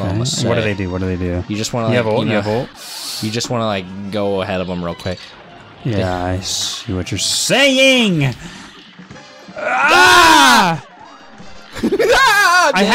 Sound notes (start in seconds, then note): 9.5 both yelling; 11.6 hysterical laugh